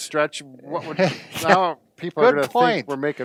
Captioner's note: laughs